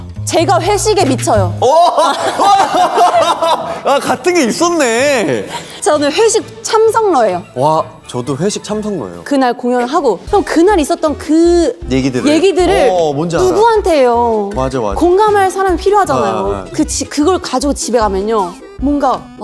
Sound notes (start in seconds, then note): 1.6 tehehe